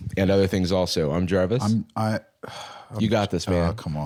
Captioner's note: sighs